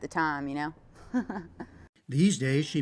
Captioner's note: laughter